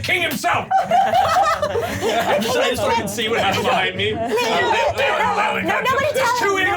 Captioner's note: overlapping chatter; laughing